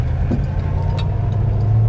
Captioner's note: engine